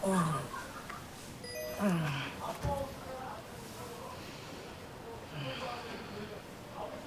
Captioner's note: sound of customers at bar nearby